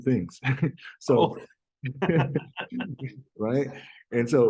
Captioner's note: both laughs